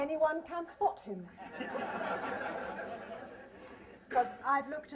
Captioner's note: laughter